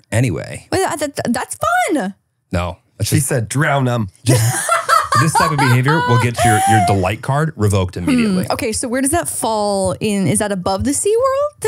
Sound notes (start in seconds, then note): 4.4 laughs